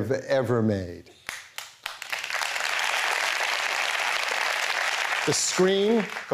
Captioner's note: applause